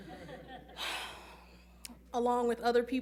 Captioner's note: laughing; sighing